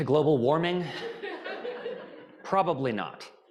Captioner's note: audience laughing